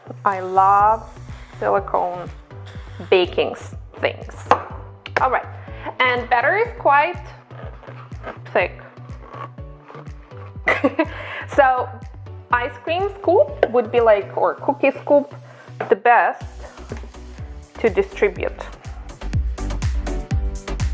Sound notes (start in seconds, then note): 9.1 plastic squeaking; 10.6 chuckles